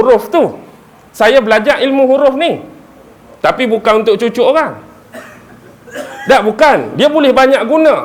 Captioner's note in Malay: ketawa